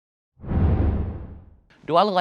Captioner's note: logo whooshing